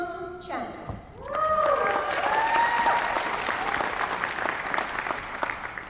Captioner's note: applause